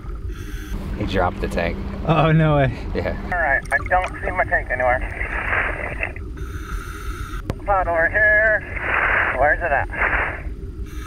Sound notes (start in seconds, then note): 2.3 male Voice